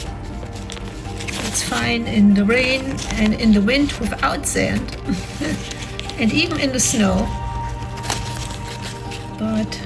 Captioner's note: laughs